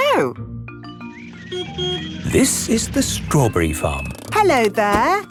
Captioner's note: beeps